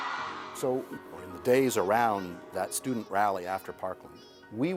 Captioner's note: cheers and Applause